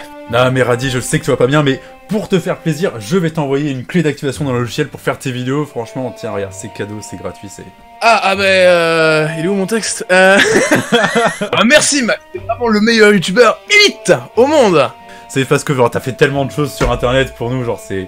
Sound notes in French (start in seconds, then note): 10.3 rires